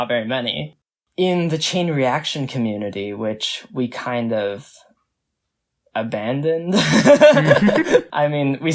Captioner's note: both laugh